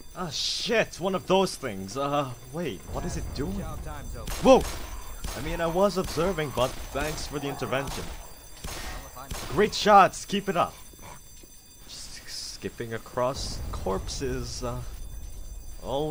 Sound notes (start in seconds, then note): 4.3 gunfire, zombie snarling